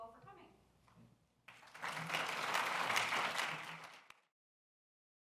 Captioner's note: applause